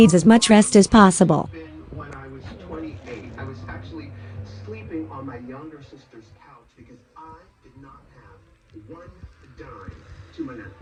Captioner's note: TV continues playing